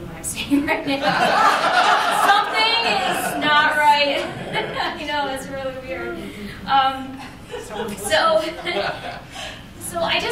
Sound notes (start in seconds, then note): 0.9 laughter; 7.4 laughter